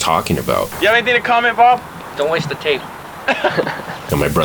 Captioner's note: laughter